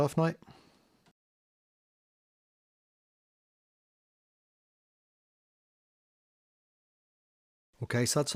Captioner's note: silence